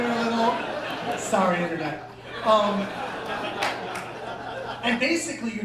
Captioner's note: laughter